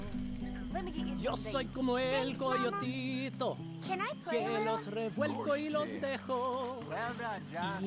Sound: in Spanish

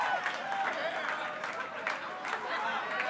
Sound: applause

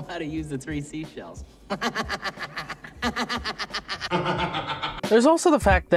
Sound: imp-like laughter

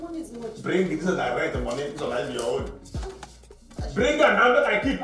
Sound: foreign language

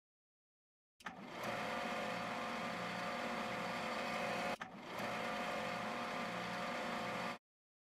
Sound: rotation gear whirring

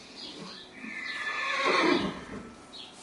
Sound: horse whinnies in background

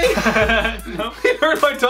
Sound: laughing

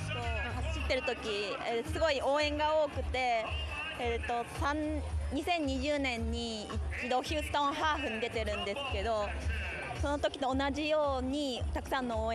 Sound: speaking non-english

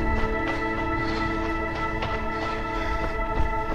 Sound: panting

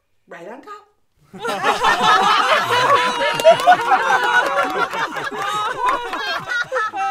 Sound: audience laughter and moans of disgust

